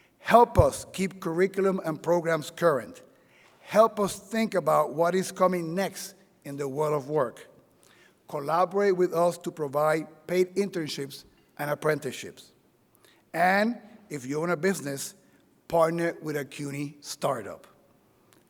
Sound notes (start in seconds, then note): none